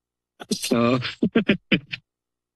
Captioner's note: laughter